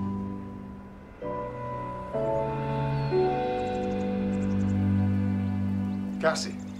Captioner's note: birds chirping; light music